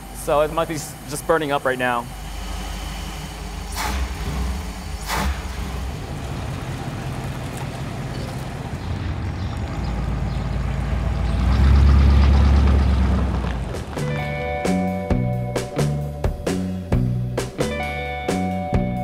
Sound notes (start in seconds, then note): 11.6 engine roars; 13.9 upbeat music